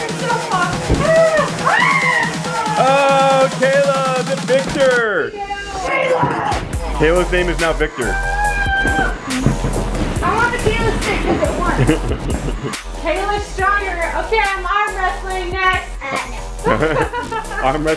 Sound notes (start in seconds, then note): 1.0 screams; 16.4 laughs